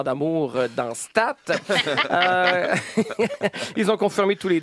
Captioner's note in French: rires